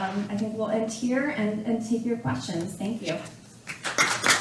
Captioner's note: applause